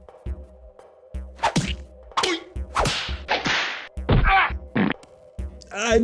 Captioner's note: increasingly goofy whacking sounds